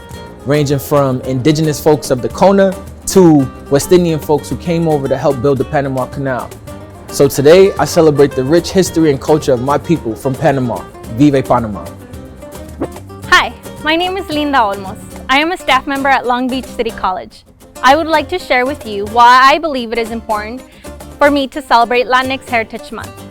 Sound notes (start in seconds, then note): 10.9 speaking foreign language